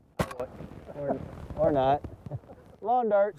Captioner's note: gunshot